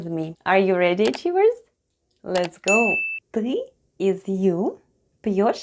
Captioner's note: click and ding sounds